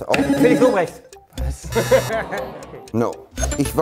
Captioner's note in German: Lachen